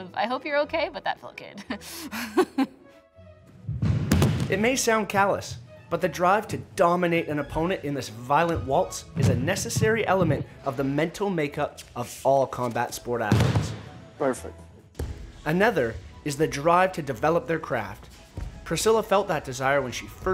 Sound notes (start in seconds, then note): 3.8 thump